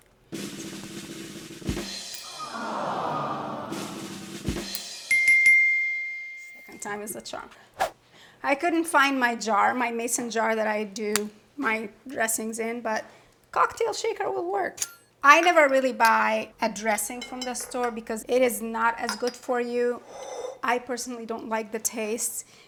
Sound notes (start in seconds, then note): 0.3 drum roll tapping; 2.2 crowd groans; 4.0 drum roll tapping; 4.7 bell dings